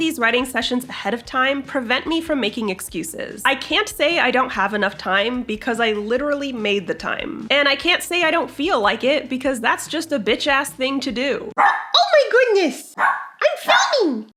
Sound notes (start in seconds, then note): 11.5 Butters barks